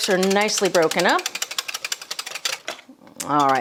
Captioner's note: whisking